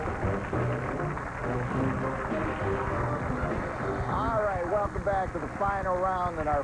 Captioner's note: applause; cheers and applause